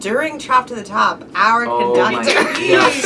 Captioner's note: laughs